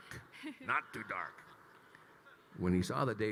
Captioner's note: chuckles